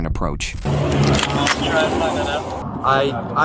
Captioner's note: radio chatter